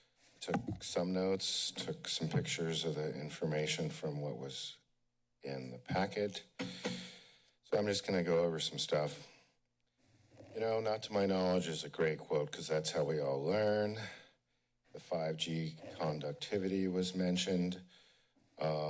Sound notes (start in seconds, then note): none